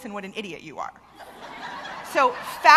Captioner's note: laughter